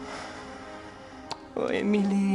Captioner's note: <i> sighs</i>